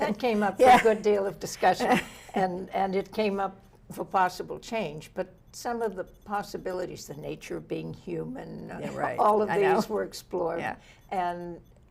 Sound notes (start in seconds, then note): 2.2 laughs